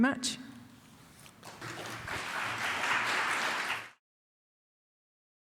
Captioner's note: applause